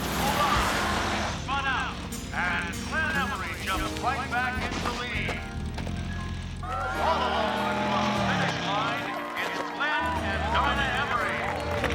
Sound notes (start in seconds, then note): 6.5 cheering